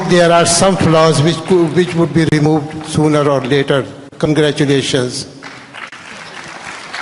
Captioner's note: applause